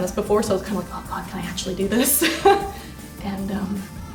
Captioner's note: laughs